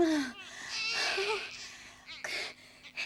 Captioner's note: baby cries